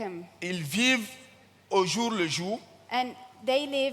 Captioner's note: continues in French